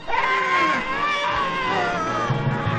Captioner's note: screaming